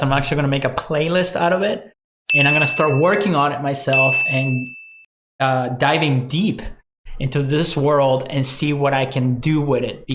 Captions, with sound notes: I'm actually gonna make a playlist out of it. And I'm gonna start working (bell rings) on it myself and diving deep (bell rings) into this world and see what I can do with it,